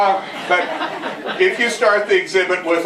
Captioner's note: laughter